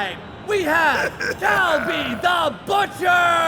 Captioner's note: laughing